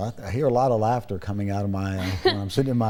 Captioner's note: giggles